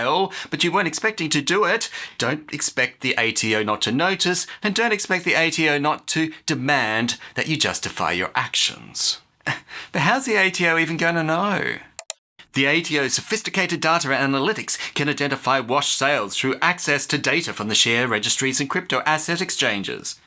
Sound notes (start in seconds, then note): 11.9 click